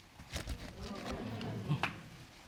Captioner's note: audience exclaiming